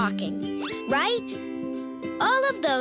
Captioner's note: bell ringing